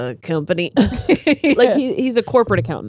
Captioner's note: all laughing